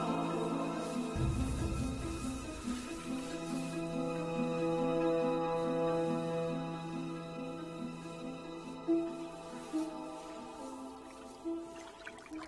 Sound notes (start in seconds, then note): 8.5 water trickles